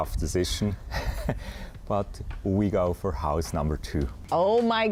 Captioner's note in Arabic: يضحك